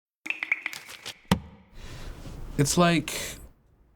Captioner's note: SFX: coffee dripping, pages flipping